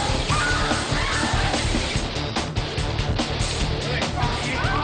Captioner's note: intense rock music; female screams loudly